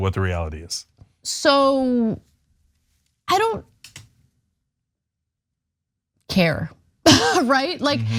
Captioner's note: laugh